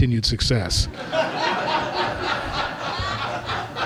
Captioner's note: laughter